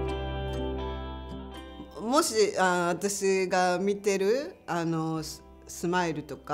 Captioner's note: speaking native language